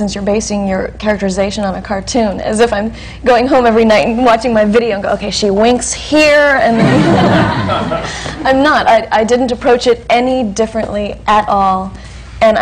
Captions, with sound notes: you're basing your characterization on a cartoon?" As if I'm going home every night and watching my video and going, "Okay, she winks here." (LAUGHTER) I'm not. I didn't approach it any differently at all.